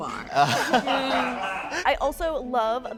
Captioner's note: participants laugh